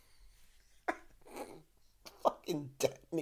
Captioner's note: laughs